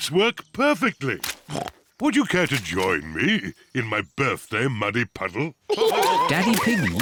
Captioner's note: snorts